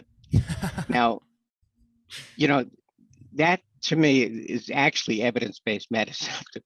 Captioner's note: laughs